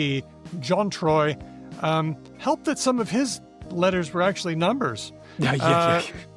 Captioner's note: laughs